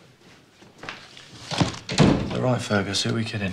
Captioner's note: door closes